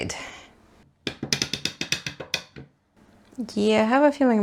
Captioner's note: plastic crank clicks sharply